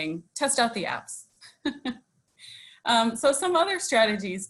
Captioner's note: laughs